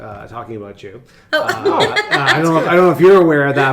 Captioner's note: laughs